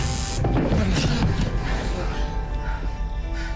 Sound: both panting

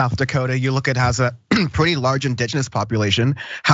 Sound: cough

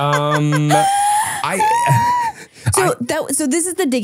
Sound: squeals

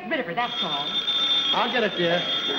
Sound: telephone rings

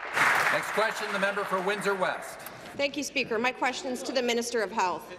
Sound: applause

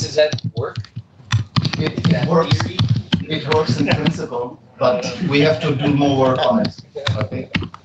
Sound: laughter

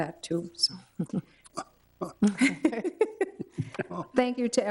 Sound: board members chuckling

